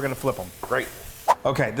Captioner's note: swoosh